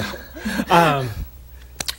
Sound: chuckle

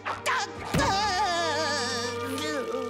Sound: crying

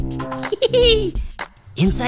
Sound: Dr. McTinker laughs

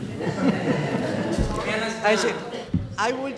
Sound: laughter

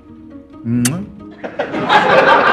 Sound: kissing sound

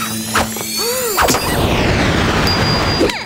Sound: gasps

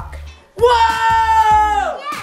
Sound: exclaims

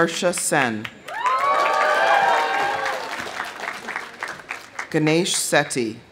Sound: audience applauding; audience cheering

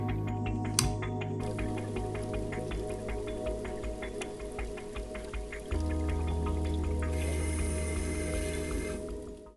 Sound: click

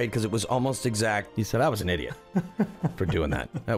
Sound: laughs

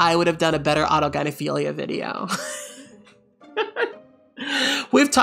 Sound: laughs

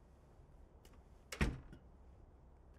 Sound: door closes

